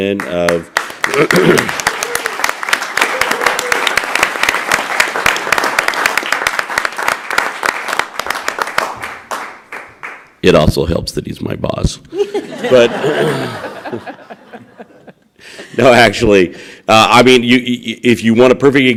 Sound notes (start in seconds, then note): 10.0 applause; 16.0 laughter